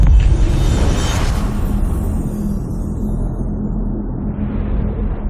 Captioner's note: dramatic sound